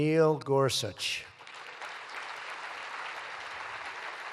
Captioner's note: applause